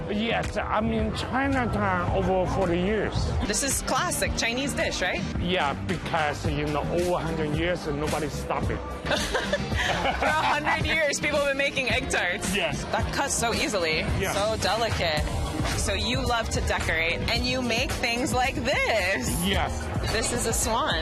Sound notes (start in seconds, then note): 9.0 both laugh